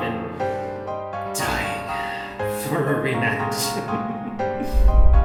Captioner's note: chuckles